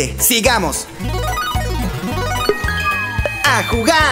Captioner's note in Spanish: Sonido de ruleta